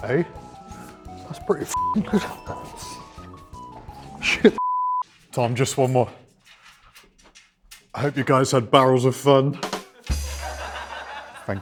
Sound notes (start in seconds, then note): 1.7 beep; 4.5 beep; 9.6 drum roll; 9.8 laughter